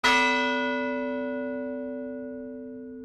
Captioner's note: bell rings